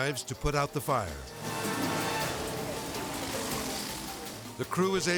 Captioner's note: dramatic whoosh